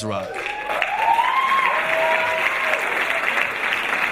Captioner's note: audience applauding